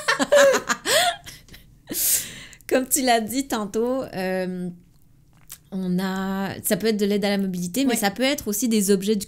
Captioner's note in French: Rires